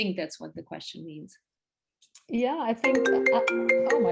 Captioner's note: phone rings in background